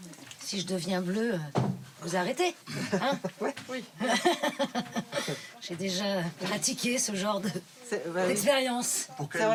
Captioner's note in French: rires